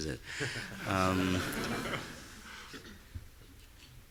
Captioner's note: audience laughing